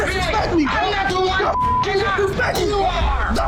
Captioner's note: beep